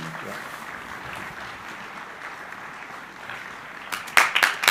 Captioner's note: crowd applauding